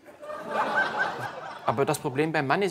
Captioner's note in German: Lachen